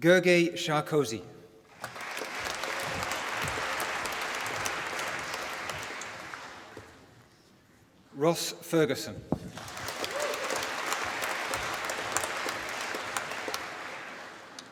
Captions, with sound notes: Gergely Sárközi. (APPLAUSE) Ross Ferguson. (APPLAUSE)